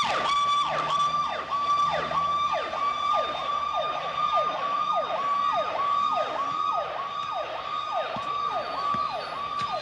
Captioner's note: police sirens